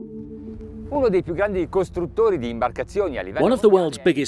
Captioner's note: speaking in foreign language